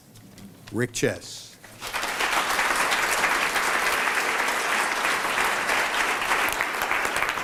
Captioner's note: applause